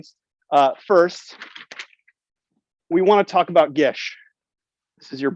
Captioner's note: paper rustles